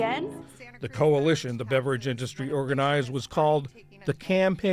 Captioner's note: voice-over